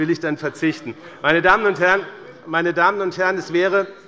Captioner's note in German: Heiterkeit bei dem BÜNDNIS 90/DIE GRÜNEN und der CDU